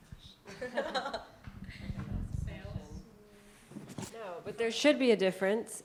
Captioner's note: laughter and murmuring